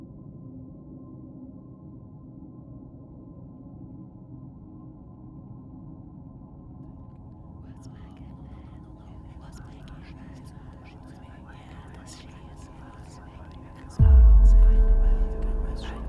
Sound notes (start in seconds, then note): 9.5 voices whispering; 14.0 tense music